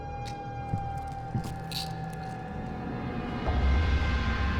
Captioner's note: pills rattling